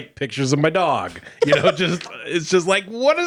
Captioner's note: laughing